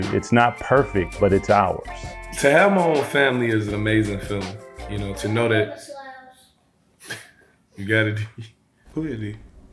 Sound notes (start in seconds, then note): 5.0 child talking